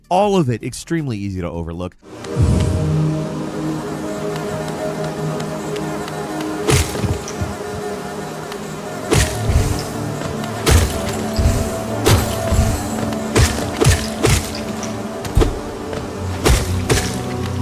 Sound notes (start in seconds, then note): 2.3 intense ambient music; 4.5 bees buzzing; 7.3 loud thump; 10.6 loud thump